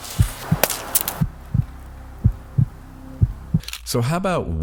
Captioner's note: heartbeat thumping; black walnut thumps; tennis racket thumps